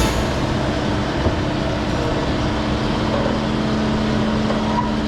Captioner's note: machinery revving